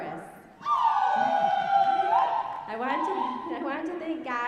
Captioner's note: audience cheering